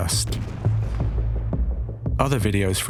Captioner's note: bomb bursting